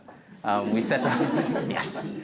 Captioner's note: laughter